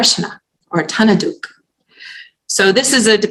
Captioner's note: non-english